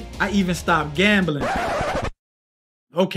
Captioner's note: record scratching